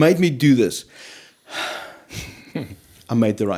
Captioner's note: sigh of relief